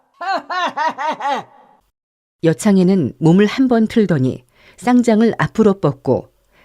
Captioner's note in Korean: 웃음